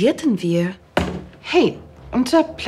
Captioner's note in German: Tap